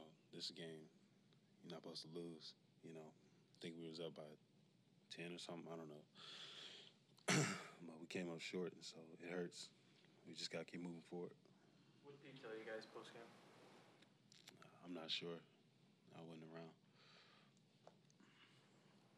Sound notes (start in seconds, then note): 7.2 clears throat